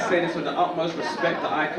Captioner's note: audience laugh